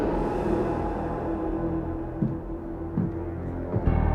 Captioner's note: footsteps